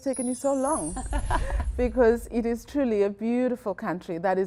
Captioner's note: laughter